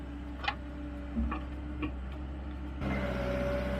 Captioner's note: machinery